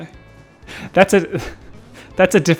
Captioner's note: laughing